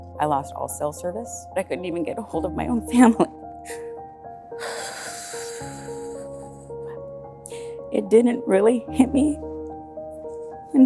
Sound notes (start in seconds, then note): 4.6 deep breath; 4.7 crying